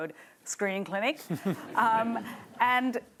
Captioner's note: laughter